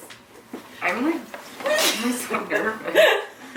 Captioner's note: laughing